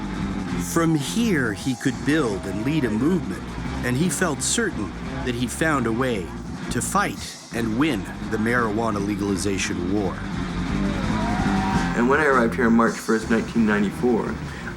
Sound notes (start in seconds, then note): 11.1 cheering